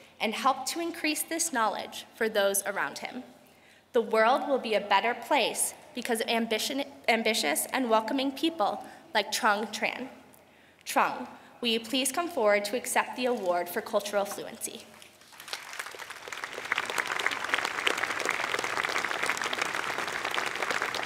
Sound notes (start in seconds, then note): 15.0 applause